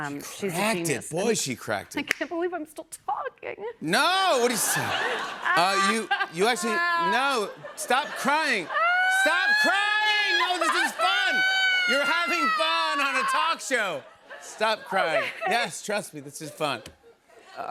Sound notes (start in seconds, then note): 4.0 mock crying; 4.4 laughter; 8.6 mock crying continues